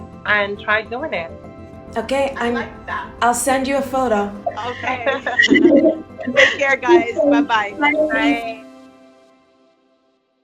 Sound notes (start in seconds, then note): 4.5 laughs